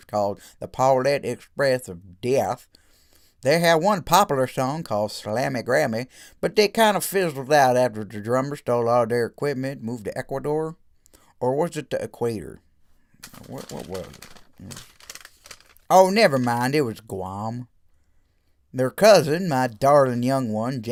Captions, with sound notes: called "The Paulette Express of Death". They had one popular song called "Slammy Grammy" but they kind of fizzled out after their drummer stole all their equipment and moved to Ecuador. Or was it the equator? *rustling paper* What was it? Oh nevermind! It was Guam! Their cousin, my darling young one